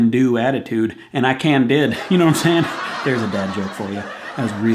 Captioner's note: chuckles